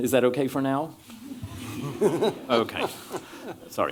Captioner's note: chuckles